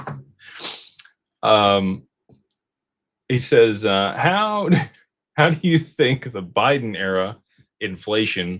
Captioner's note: snorts